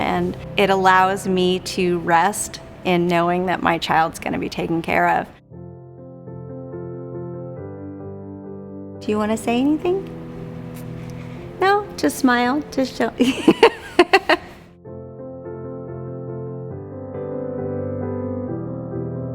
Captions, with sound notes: and it allows me to rest in knowing that my child's gonna be taken care of. (soft piano music) Do you wanna say anything? No? Just smile to show (laughs) (soft piano music)